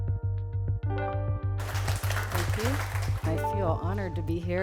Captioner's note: music & Applause